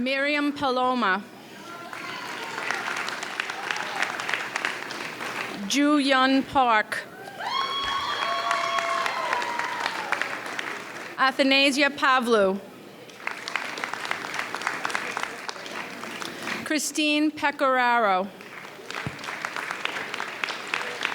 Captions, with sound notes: Miriam Paloma. (audience cheers) Joo-Hyun Park. (audience cheers) Athanasia Pavlou. (audience applauds) Christine Peccararo. (audience applauds)